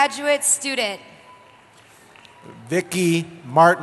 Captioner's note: cheering